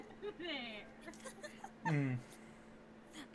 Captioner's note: both giggling